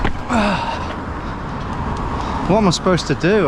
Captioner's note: grunts